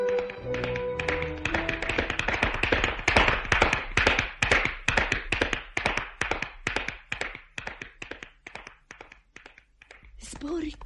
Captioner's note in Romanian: Aplauze